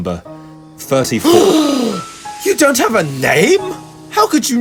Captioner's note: louder gasp